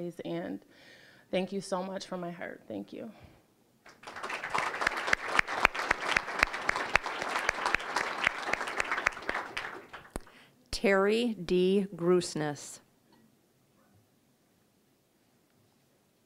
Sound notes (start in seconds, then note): 3.8 applause